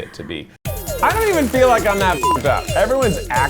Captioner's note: beep